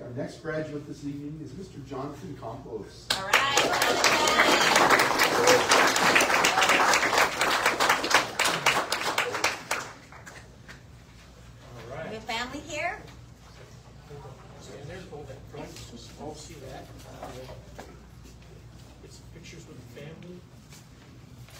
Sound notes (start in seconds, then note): 3.2 audience cheers and applauds; 13.4 indistinct chatter